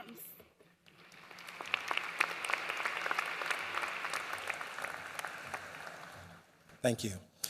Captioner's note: applause